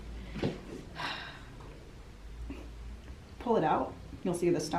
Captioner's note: sighing